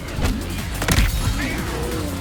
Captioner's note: snap